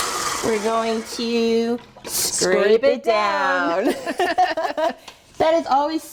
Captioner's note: laughing